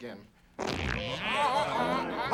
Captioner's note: farting sounds